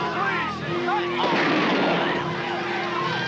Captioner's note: gunshot; dramatic music; overlapping screaming